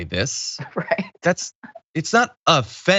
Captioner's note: laugh